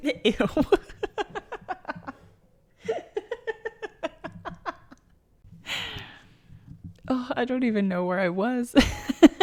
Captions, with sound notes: Ew *maniacal giggles* I don't even know where I was.